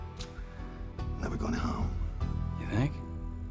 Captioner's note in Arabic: لهجة اسكتلندية